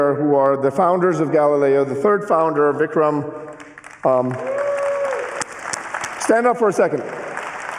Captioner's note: applause